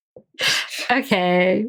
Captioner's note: laughs